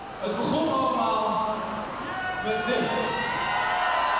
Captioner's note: speaking in foreign language; audience cheering